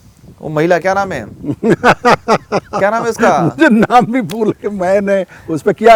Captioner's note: laughs